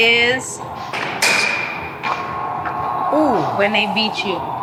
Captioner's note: clink